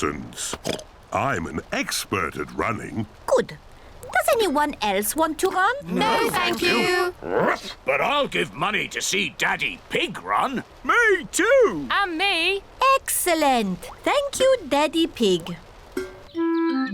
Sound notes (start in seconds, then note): 0.3 oinks; 7.3 barks